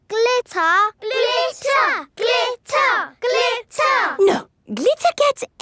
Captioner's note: chanting